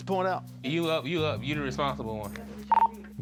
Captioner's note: dispatch radio beep